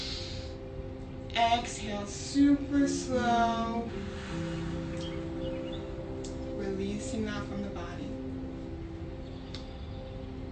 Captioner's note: inhales; exhales